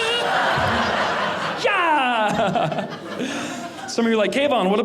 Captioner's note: audience laughing